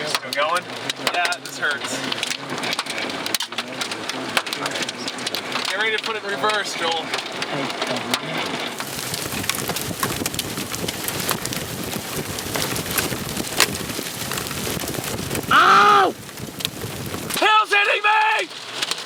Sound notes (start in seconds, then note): 3.0 hail pattering; 9.0 hail pattering